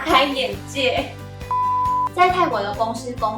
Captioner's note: beep